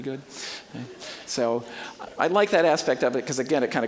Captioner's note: audience chuckling